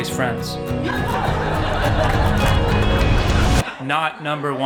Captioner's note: crowd laughs